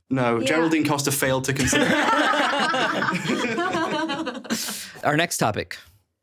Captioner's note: everyone laughing; screen whooshing